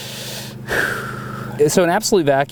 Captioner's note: breathes heavily